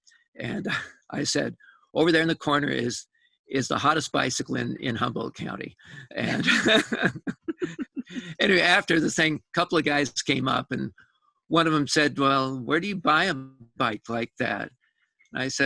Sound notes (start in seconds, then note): 6.0 laughter